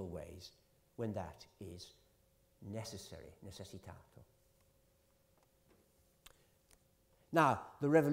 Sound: italian

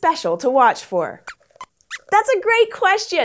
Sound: squeaks squeaks

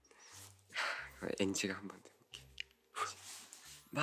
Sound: sigh

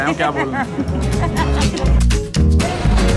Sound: laughing

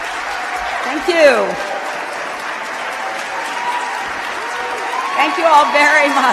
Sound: cheers

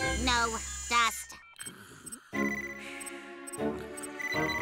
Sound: beeping; urgent beeping

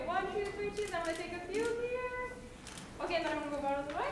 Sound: camera clicks

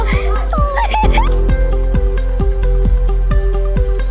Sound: student crying; upbeat music

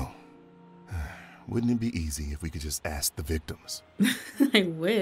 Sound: sighs

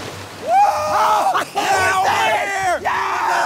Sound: screaming

